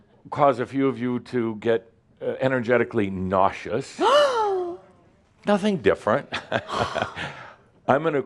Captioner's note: gasps again; Adamus chuckles